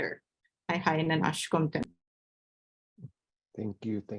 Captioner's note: speaking in Native language